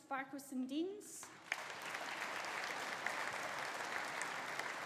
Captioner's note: audience applauding